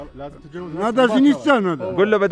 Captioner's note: speaking in Kyrgyz